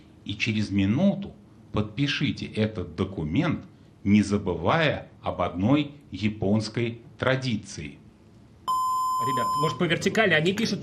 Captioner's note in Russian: колокольчик